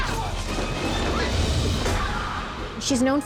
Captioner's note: grunting